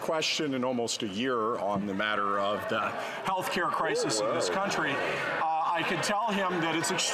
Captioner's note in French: voix de l'interprète